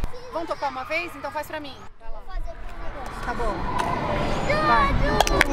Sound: claps

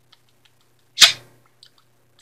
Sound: Stefan smacking

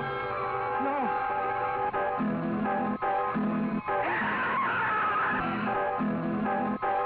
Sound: screams; suspenseful music

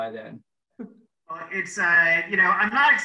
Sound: laughs

